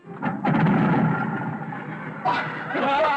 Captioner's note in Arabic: يبدأ المحرك; هتاف